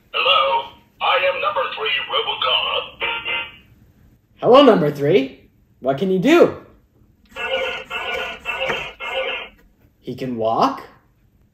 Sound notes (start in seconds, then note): 7.7 robot swooshing